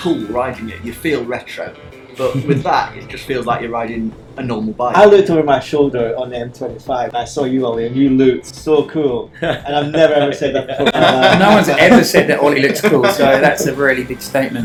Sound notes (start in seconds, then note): 9.4 all laugh